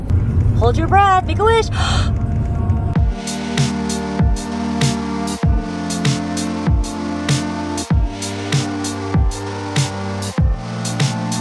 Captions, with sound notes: - Hold your breath! Make a wish! (gasping) (upbeat music)